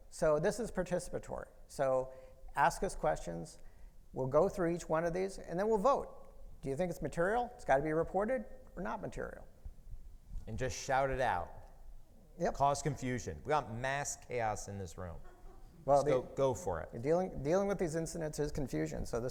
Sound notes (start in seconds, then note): 15.2 audience member laughing